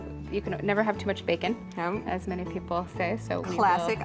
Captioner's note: laughs